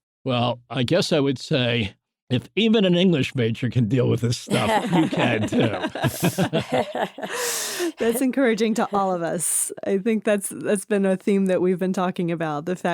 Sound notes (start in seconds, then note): 4.5 laughter